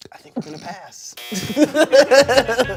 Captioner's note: buzzer buzzes; everyone laughs